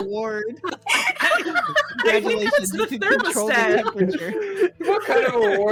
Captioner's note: communal laughter